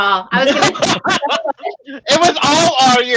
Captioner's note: laughing